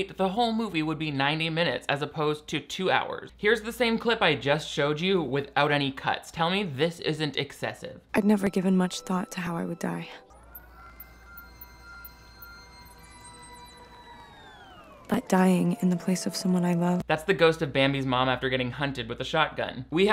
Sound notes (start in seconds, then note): 10.2 nature sounds; 14.0 film slowing down; 14.0 static crackling